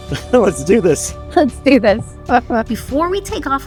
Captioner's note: joyful laughter